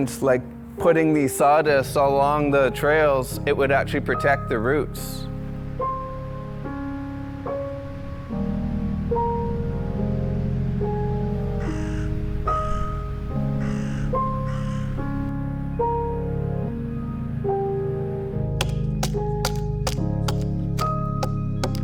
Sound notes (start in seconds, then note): 10.5 pensive music continues; 11.5 bird squawking; 18.9 tool banging